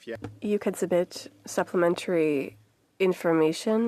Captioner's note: speaking French